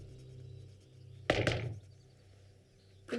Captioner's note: bang on door